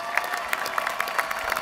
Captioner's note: applause